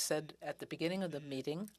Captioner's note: speaking in french